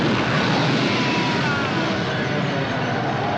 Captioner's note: flames blast; tires screech